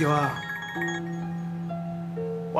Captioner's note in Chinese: 電話鈴聲